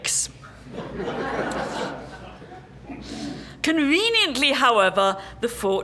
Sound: laugh

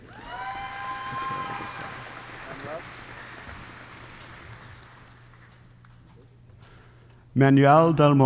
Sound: applause

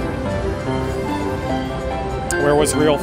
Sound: slot machine chiming

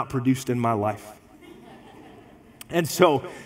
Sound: congregation laughs

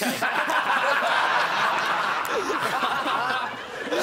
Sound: laughing

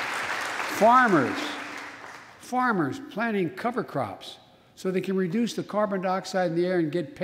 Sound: applause

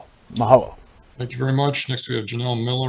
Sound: in foreign language

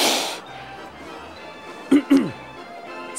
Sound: clearing throat

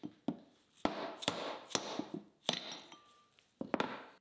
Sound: hammer taps

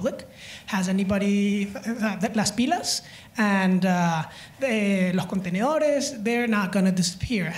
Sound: spanish

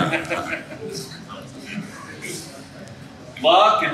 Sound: laughs

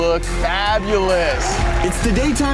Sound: crowd cheering

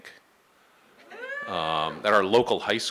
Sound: howl

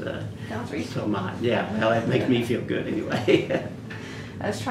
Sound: laughs

